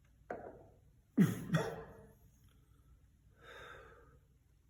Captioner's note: cough-cough